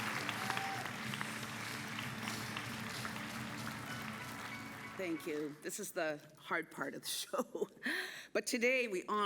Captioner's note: applause